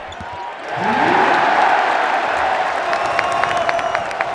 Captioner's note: cheering